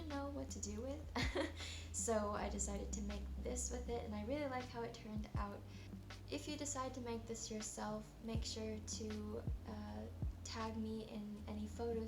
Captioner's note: chuckles